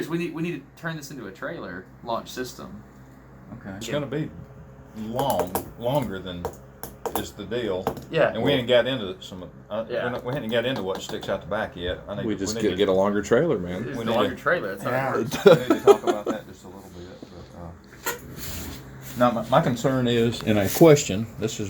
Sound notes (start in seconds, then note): 15.2 laughs loudly